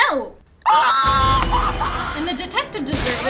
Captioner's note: screaming